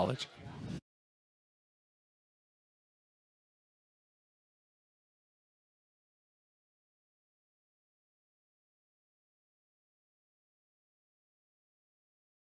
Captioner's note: silence